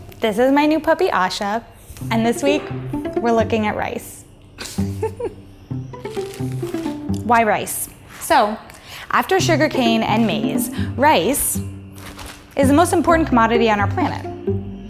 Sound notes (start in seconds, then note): 4.6 laughs